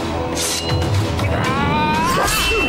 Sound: grunting

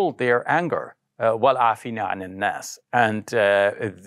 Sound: speaks arabic

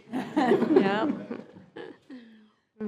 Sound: group laughs

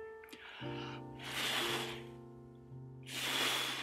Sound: blowing

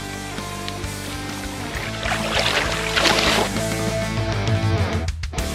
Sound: fish splashing

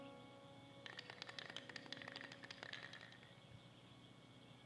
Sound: spray paint can shaking

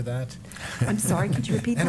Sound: laughter

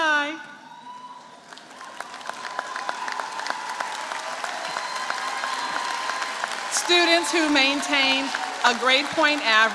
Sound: applause

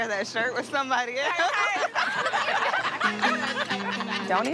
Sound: laughter

